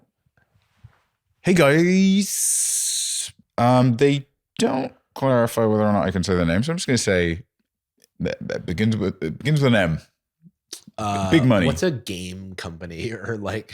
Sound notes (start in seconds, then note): 8.5 stutters